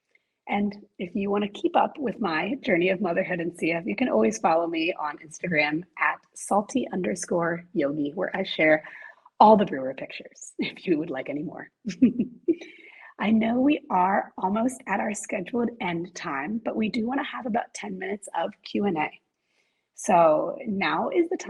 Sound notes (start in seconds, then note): 11.9 laughs